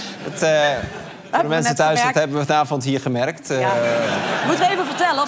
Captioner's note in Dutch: gelach